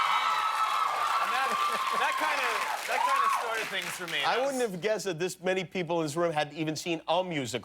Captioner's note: cheers and applause